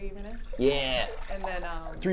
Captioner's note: pouring water